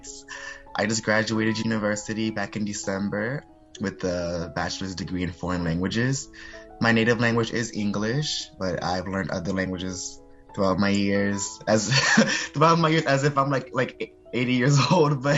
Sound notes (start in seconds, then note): 11.8 laugh